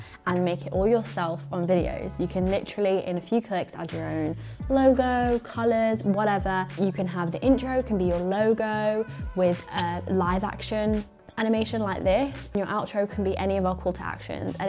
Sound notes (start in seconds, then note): none